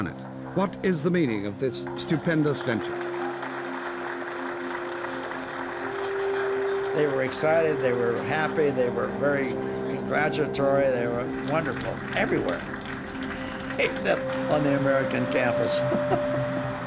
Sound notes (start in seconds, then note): 4.4 crowd applauding; 15.0 chuckling